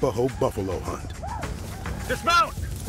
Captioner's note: arapaho yelling